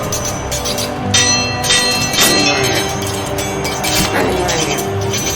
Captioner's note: swords clanging